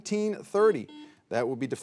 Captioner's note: buzzer beeping